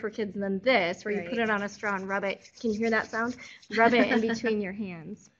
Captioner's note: sound of shuffling